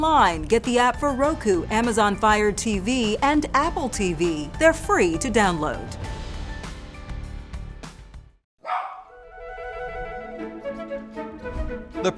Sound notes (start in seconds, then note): 8.6 dog barks; 9.1 whimsical music